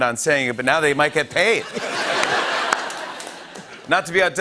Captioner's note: laughter